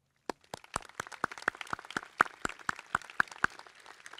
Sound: crowd clapping

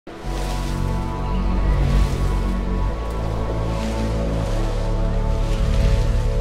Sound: birds chirping; intense upbeat music

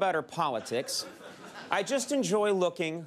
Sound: audience laughs

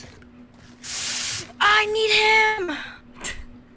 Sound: inhale

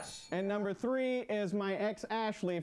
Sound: bell rings

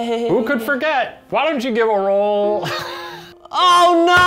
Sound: laughs

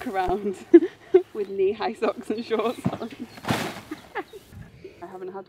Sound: laughs

